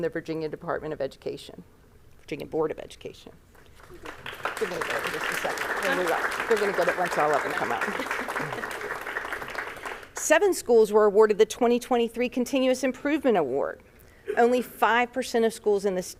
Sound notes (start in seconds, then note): 3.6 applause